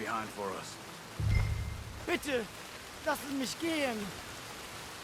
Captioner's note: in German